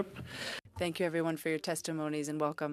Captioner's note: speaking French